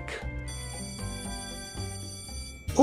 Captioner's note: japanese School bell noise